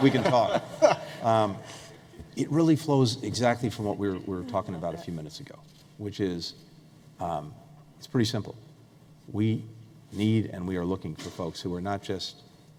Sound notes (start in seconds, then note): 0.0 laughter